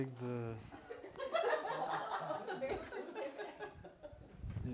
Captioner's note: laughter